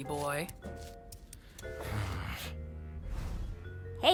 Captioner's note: grumbles